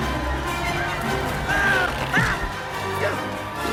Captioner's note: Hopper Screaming